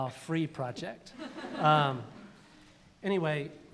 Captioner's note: laughter